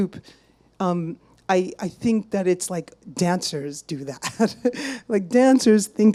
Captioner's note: chuckles